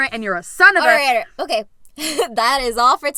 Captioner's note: laughs